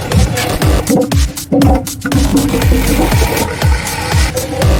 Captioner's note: part of wall falls